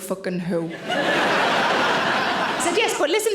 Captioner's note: audience laughing